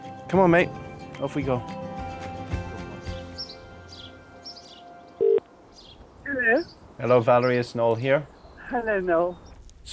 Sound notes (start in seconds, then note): 5.2 phone ringing